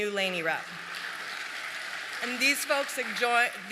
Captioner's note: applause